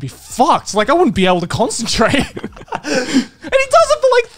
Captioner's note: laughs